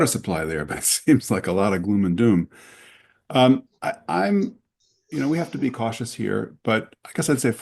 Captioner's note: laughs